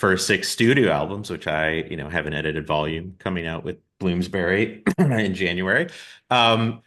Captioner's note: pointedly coughs